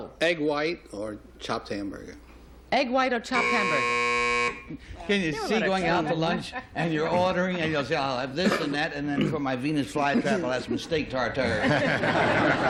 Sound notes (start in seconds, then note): 3.3 buzzer